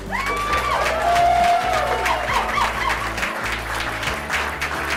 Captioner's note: cheering and applause